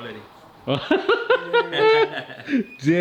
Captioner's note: laughing